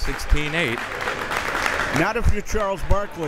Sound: crowd members clapping

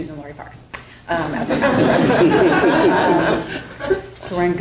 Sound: audience laughing

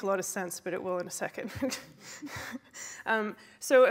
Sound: laughs

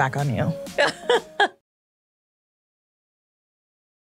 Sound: laughs

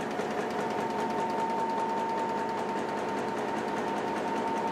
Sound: machine running

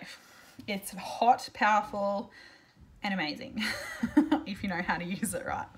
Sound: laughs

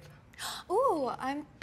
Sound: gasps

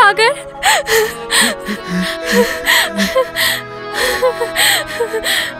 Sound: Ranja crying

